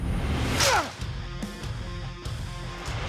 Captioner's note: grunting